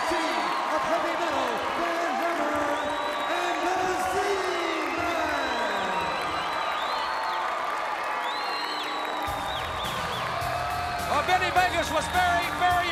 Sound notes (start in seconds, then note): 5.8 crowd cheering